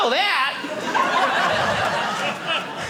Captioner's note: audience laughing